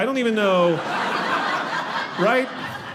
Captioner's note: audience laughing